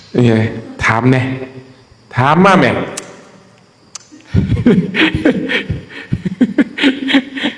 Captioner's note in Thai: เสียงหัวเราะ